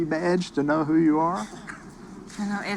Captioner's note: chuckling